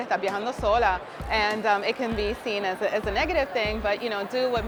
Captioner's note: speaking Spanish